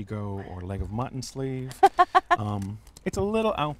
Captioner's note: laughs